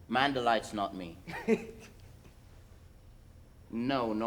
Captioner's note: Rosencrantz laughs